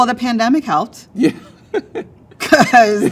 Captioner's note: laughs